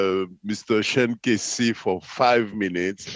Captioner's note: speaking French